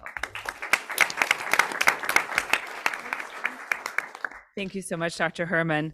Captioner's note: audience clapping